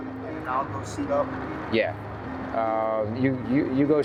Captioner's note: faintly speaking